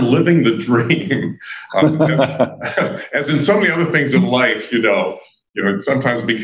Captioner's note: laughter